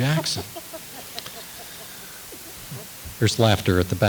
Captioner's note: audience laughs